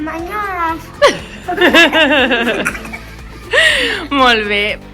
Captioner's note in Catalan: Riures